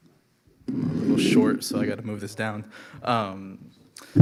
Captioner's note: microphone scraping